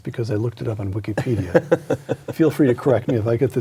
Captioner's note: laughing